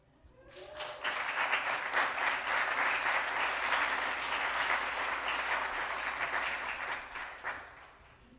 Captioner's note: applause